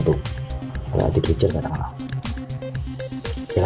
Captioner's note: click